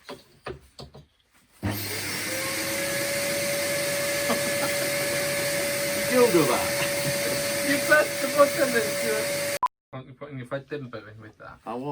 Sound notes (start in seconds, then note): 1.6 hoover starts up; 4.1 laugher